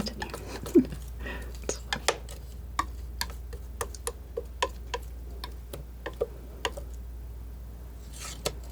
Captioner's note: laughs; tapping